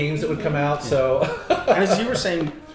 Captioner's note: chuckles